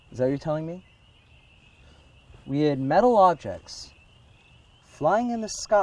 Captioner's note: none